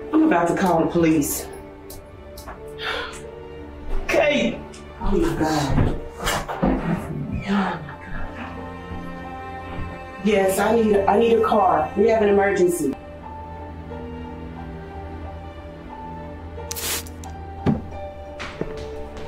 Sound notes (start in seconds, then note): 8.5 door creaking; 16.3 mysterious music